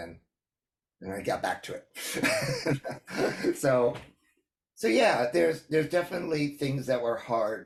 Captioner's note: laughs